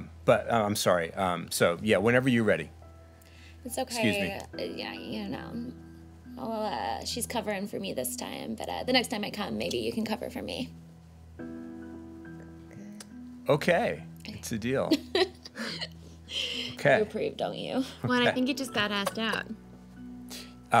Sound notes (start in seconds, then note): 14.9 laughs